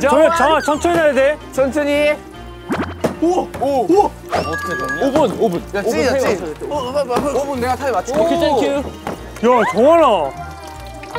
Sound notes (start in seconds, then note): 6.4 sizzling & looking tasty